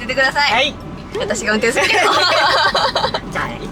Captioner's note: laughs